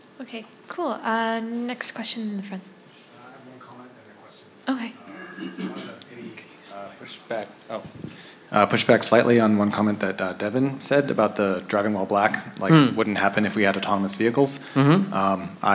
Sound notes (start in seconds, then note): 5.0 man clearing throat